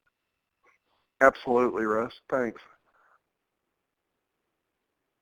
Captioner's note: voiceover